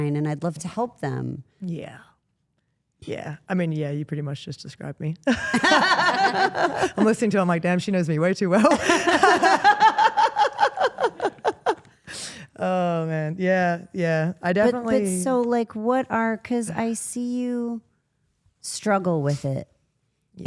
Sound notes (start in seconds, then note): 5.2 Steph and Elyse laugh; 5.4 laughs; 8.6 Steph and Rhea laugh